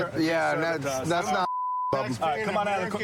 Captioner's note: chatter